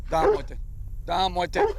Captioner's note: dog barks